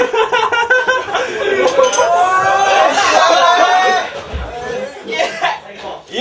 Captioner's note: everyone exclaiming in celebration